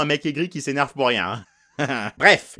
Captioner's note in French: rire